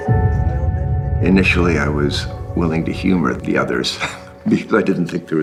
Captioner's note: chuckles